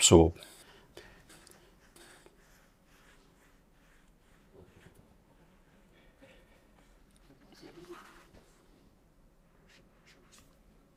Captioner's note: silence